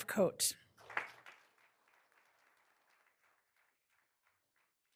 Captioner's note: all applauding